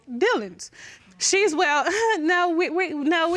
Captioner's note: chuckles